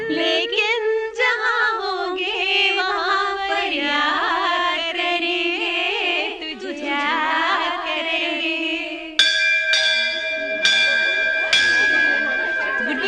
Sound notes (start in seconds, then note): 9.2 school Bell